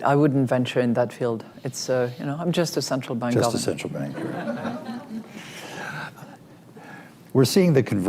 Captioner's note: laughter